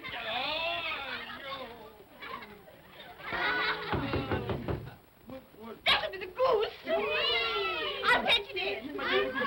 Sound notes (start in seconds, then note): 2.1 children laugh; 3.8 knocking on door; 6.8 vocal sounds of delight